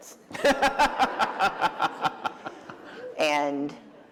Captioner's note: laughter